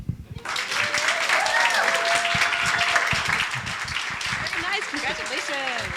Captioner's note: audience applauding